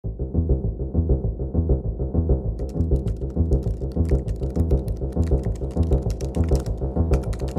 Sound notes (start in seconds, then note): 0.1 intense music; 2.6 typing